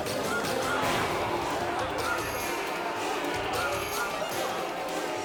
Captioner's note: crowd shouting; crowd chattering